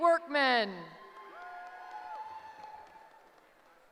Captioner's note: cheering